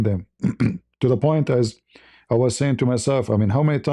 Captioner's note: berdehem